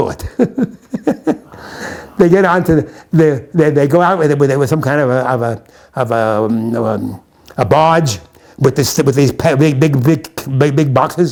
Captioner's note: laughs